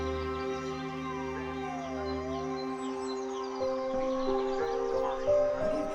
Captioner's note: siren roaring